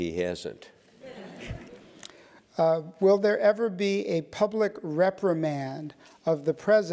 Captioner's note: laugh